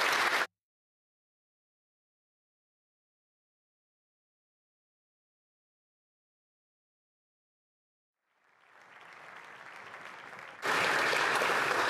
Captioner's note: applause